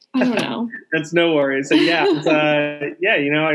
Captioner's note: laughing